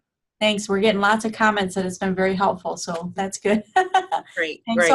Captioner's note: laughing